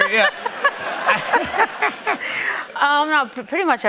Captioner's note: laughter